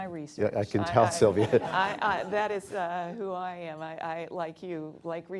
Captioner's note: laughter